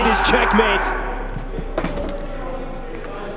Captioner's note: group cheering; people chattering indistinctly